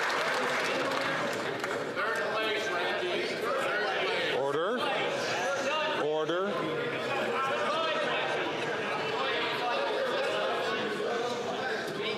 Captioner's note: some Applause